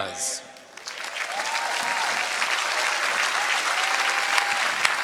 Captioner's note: applause